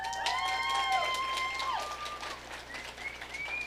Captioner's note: audience cheering